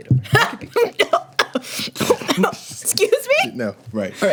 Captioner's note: laughs and coughs